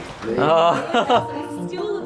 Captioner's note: laughing